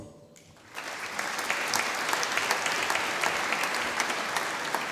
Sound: audience applauding

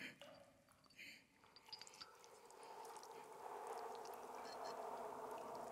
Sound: wind whistling

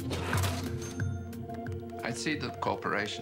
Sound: cash register ringing

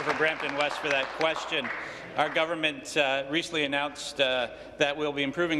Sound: applause

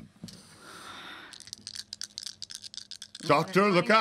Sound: dice rattling

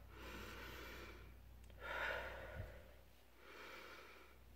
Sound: inhales then exhales

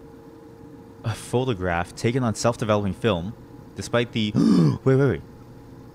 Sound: gasp

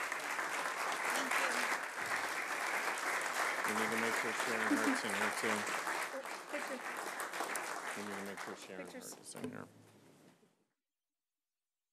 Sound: applause

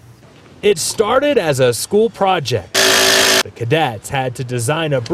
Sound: drill whirring

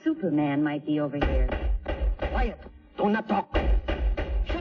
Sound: knocking

